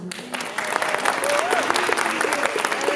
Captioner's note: applause